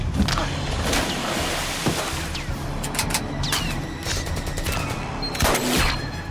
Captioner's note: splashing; gunshot